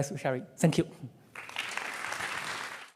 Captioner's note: applause